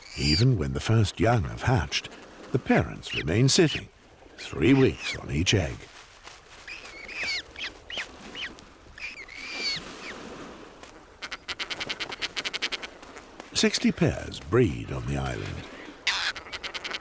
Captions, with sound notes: Even when the first young have hatched, the parents remain sitting, three weeks on each egg. [chicks wailing] Sixty pairs breed on the island.